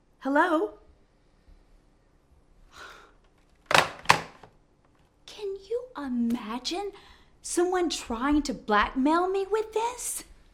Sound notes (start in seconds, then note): 3.6 phone receiver clatters